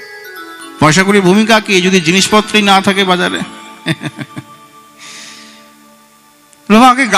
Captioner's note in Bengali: সশব্দ হাসি